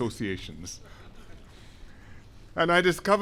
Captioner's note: laughter